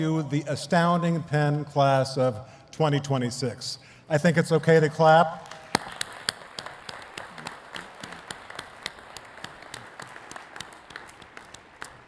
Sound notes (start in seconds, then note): 5.4 claps; 7.5 attendees clapping